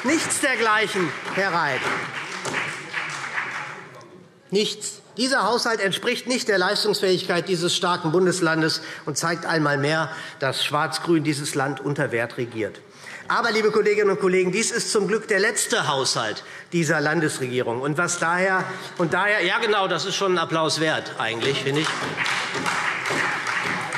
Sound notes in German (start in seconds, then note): 2.9 Beifall SPD; 18.2 Vereinzelter Beifall SPD